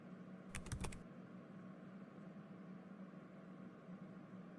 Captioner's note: keyboard clicking